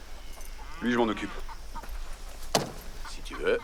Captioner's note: speaking spanish